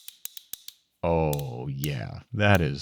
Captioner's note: metal clicking